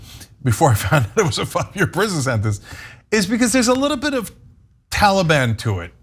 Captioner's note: laugh